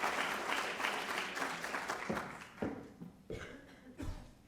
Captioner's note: applause